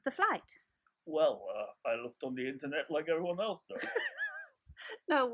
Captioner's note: laughter from both of us